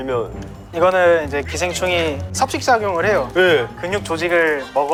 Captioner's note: chewing away